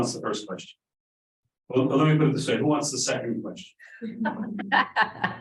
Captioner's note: laughter